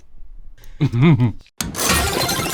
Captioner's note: giggling